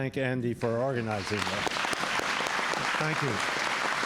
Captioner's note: applause